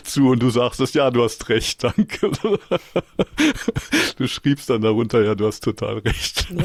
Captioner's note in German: gelächter